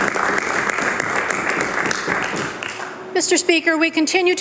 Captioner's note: applause